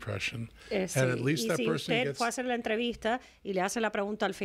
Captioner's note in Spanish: Hablando ingl\s